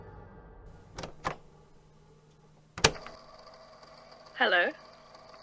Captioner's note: click; long pause